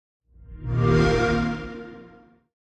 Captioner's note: xbox sound